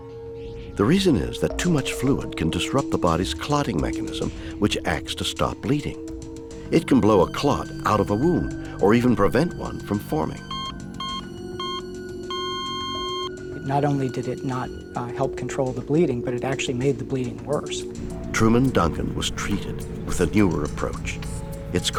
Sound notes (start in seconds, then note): 11.2 equipment beeping